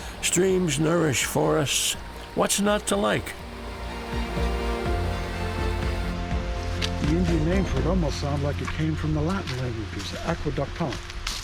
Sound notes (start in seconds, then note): 3.2 rushing water